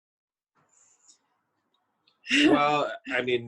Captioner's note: chuckles